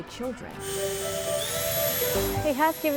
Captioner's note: drill whirring